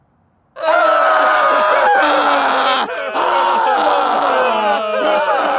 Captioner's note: brothers and Jacob wailing